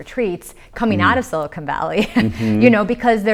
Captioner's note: laughs